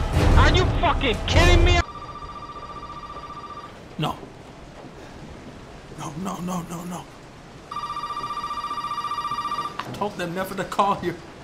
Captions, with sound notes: ARE YOU FUCKING KIDDING ME *phone ringing* No. No, no no no no... *phone ringing* I told them never to call here.